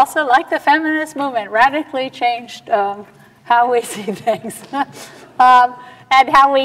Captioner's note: laughs